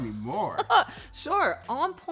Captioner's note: laughs